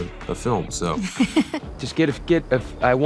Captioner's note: Zoey laughing